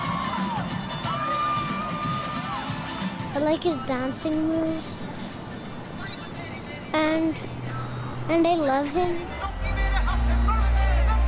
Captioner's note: cheers and Applause